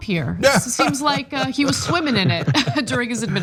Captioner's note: laugh